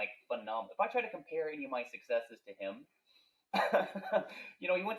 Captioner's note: laughing